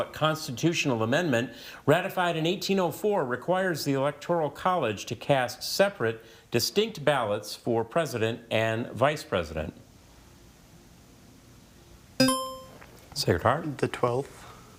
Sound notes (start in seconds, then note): 12.2 buzzer chimes